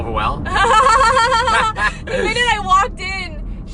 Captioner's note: laughs